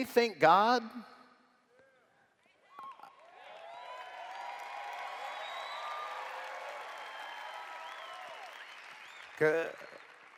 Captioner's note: cheers